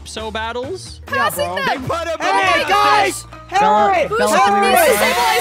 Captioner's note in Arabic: المشاركون يصرخون